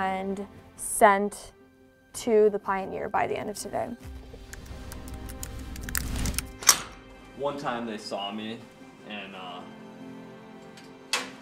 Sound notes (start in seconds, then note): 4.5 keyboard clicking; 6.2 lock clicks